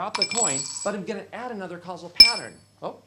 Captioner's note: coin clinking in glass